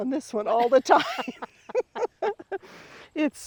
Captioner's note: both laughing